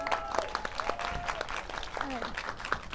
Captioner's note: audience applauds